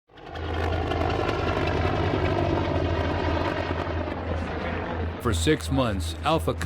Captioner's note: sound of helicopter rotors; voiceover